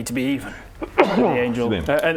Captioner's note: achoo